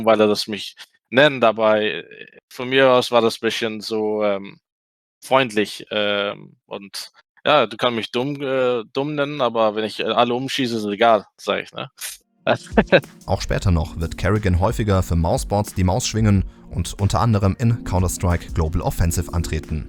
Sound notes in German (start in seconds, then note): 12.6 lacht